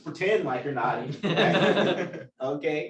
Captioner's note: laughter